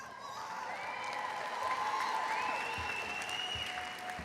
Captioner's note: crowd applauds